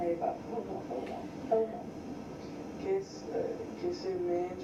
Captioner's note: woman speaks in foreign language; man singing in foreign language